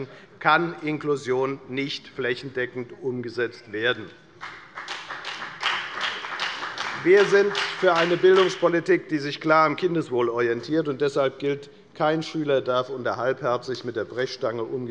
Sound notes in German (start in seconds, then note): 4.4 Beifall bei der FDP